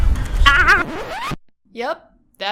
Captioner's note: tape rewinds